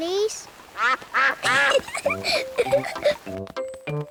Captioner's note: quacks; giggles